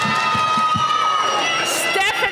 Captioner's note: cheering